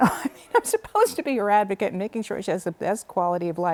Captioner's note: laughter